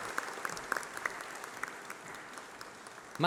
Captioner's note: applause